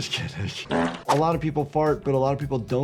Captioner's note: character farting